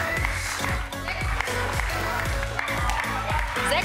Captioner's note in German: Jubel und Musik